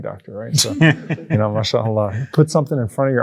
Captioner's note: everyone laughs